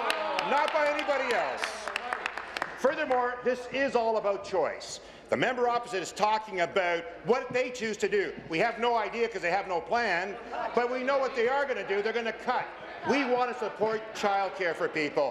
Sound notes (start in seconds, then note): 2.5 applause